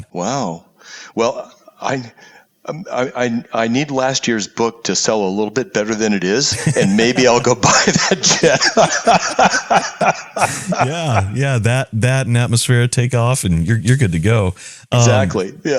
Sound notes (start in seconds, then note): 10.1 laugh